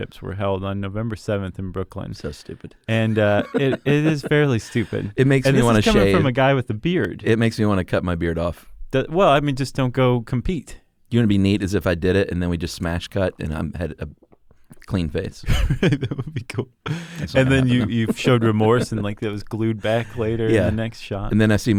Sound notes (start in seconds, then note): 16.8 laughs